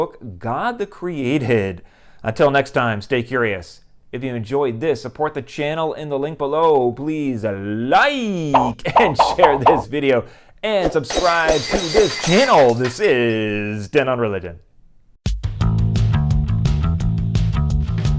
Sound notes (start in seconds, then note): 11.1 glass breaking